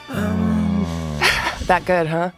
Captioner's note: groaning